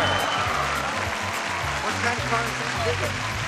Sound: audience cheering and clapping

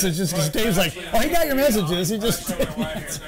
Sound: laughter

